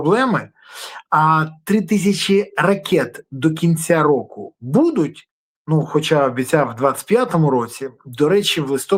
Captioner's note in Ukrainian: сопіння